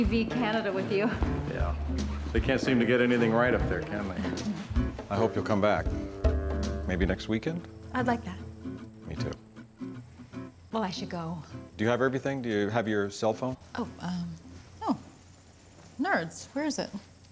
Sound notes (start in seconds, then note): 4.2 chuckles